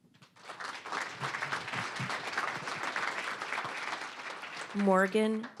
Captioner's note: applause